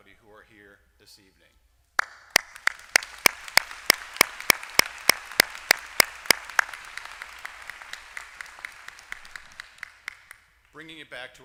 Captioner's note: applause